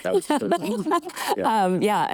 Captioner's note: laughing